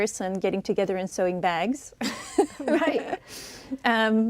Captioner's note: chuckles